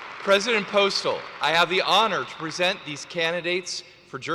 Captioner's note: applause; cheers